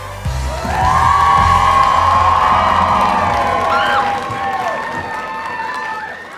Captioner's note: cheering